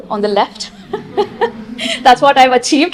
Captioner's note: she laughs